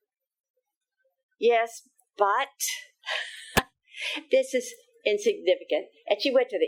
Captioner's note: laughing